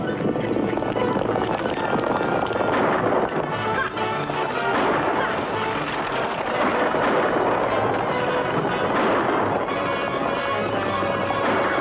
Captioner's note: gunshots; horses running